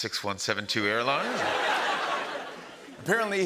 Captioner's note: laughter